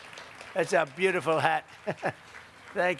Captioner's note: applause